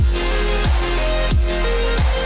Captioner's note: none